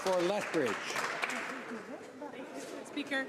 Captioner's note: some Applause